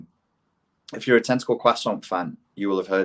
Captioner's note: speaking in foreign language